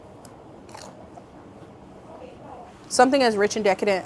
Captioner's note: chip crunches